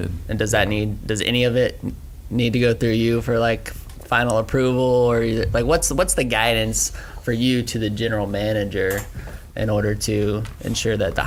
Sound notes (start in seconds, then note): none